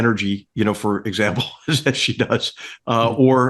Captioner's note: laugh